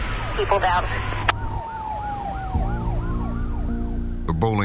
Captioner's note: sirens continue